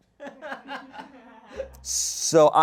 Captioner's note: people laugh